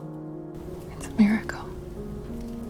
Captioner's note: voiceover